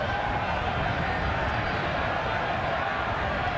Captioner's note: on Radio